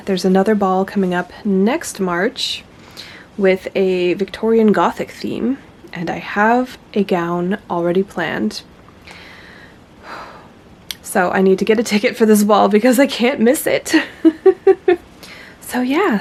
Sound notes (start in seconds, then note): 14.0 laughs